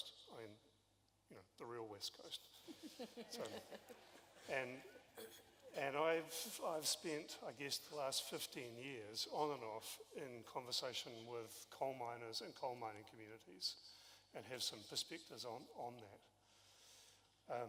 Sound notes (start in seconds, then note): 2.6 laughter